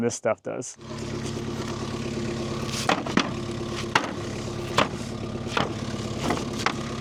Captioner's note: machine rumbling; wood clanging